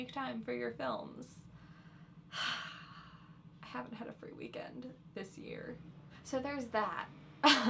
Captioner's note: long sigh